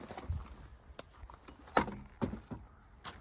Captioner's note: gate clonks shut